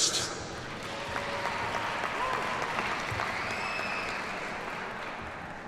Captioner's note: audience applauds